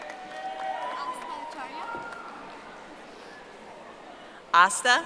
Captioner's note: audience applauding